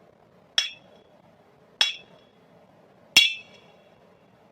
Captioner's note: hammering